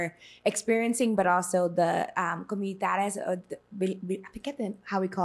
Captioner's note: speaking spanish